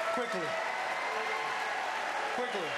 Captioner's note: applause